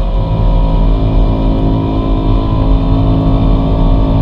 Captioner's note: engine accelerating